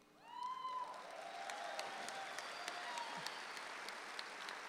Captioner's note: audience applauds